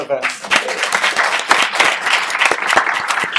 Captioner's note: applause